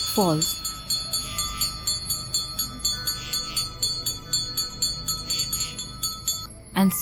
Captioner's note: bells jingling